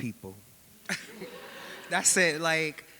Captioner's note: audience laughing